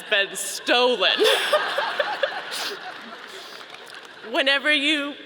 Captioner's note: audience laughing